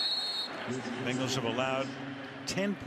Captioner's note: whistle blows